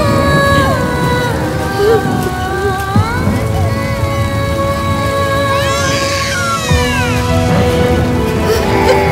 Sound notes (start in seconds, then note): 5.5 baby crying loudlly